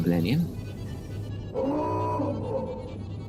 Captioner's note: klaxon siren